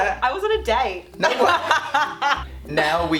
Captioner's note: laughing